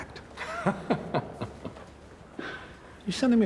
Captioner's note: Chuck laughing